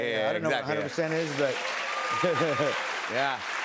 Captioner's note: cheers and applause